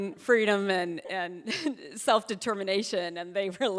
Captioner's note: chuckling